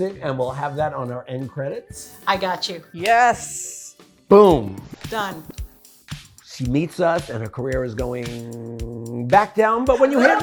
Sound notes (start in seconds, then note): 3.4 claps; 9.9 DJ laughing